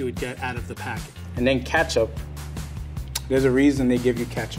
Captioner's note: smacks